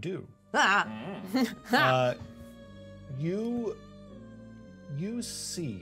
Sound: chuckles

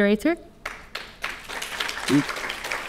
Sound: audience clapping

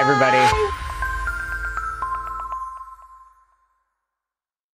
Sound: bright digital tones

